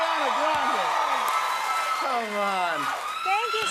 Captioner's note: cheers and applause